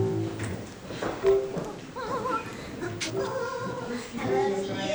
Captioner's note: humming